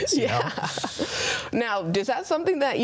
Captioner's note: chuckling